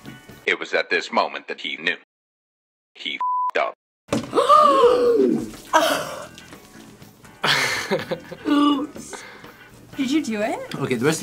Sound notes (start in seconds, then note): 4.4 gasps; 7.4 React laughs